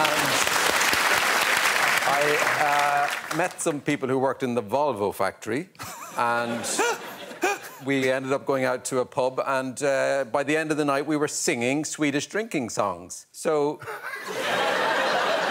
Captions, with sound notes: --and I, uh, met some people who worked in the Volvo factory-- -[Alex laughs] --and we ended up going out to a pub and, uh, by the end of the night we were singing Swedish drinking songs. So...